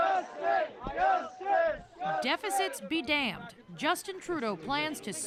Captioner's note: chanting